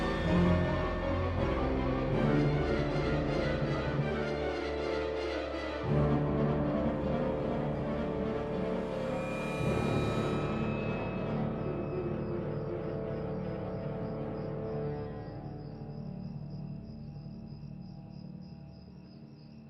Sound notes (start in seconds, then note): 15.6 insects chirrup